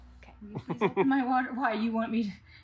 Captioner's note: laughing